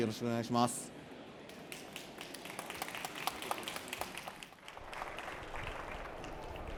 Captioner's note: applause